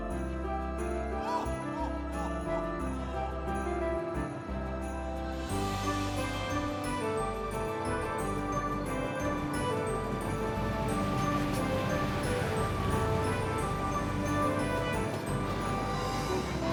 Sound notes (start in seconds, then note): 3.0 Santa laughing; 3.0 upbeat Christmas music; 10.6 traffic rumbling; 10.6 upbeat Christmas music; 15.9 people chattering; 15.9 upbeat Christmas music